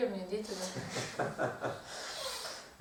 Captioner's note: hahaha